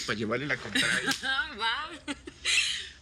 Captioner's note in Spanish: Risas